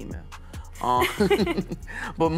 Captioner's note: both laugh